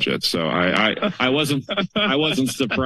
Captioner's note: laughter